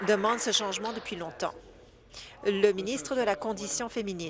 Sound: applause

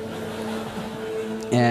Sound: laughter

